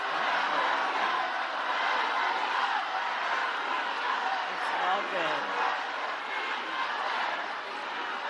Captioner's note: crowd chanting